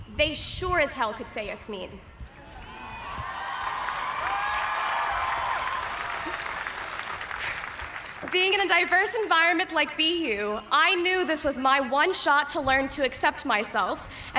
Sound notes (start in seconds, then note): 2.5 cheers and applause